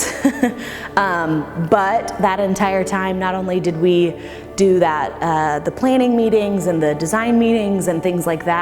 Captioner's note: laughs